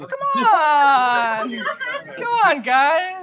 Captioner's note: laughter